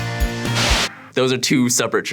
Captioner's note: white noise